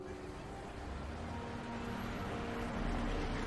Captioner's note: vehicle engine whirringng